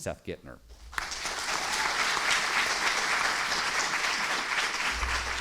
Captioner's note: students applauding